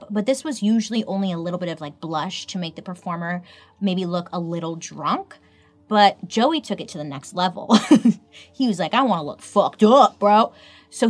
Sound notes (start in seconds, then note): 7.9 laughs